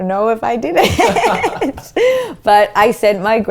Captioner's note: laughs